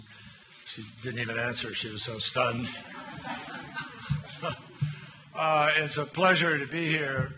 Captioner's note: laughter